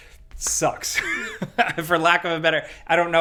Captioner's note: laughing